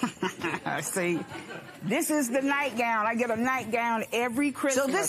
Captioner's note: laughs